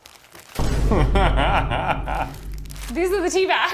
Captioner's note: laughs